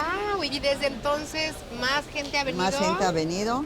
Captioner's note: speaking Spanish